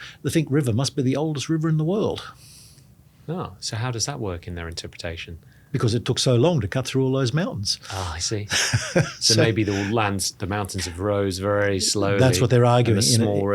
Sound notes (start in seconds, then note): 8.4 laughs